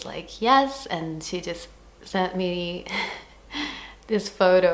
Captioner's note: giggles